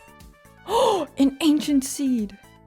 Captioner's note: gaSP